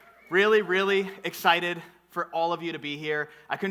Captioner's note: none